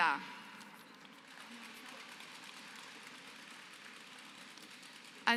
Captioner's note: applause